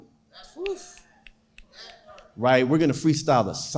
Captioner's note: snapping fingers